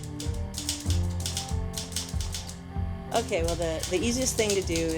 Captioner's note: typewriter clacks